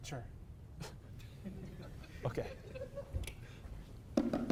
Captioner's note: scoff; inhales; bongos start